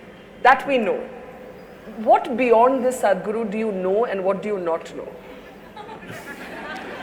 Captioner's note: laughter